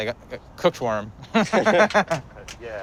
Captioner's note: laughs